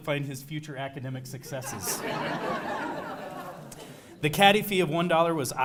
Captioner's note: laugh